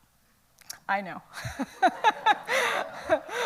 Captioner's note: laughs